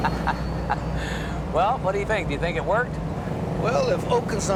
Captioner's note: laughing